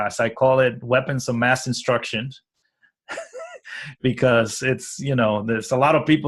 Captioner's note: laughs